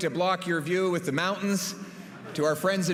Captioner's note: laughter